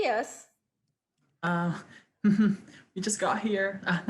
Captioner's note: laughs